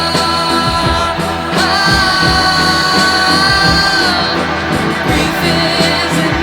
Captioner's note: more non-sensical wailing